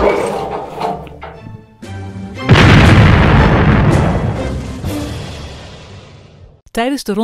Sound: blasting cannon

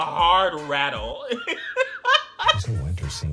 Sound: laughing

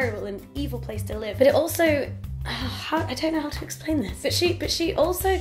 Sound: sighs

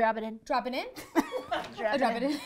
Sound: girls laugh

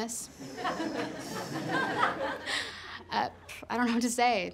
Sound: class laughs

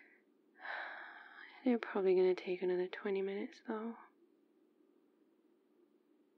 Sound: sighs

